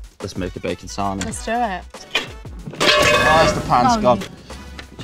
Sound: crash of pans

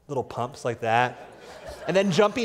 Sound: laughter

